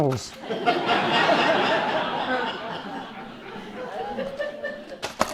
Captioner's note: audience laughing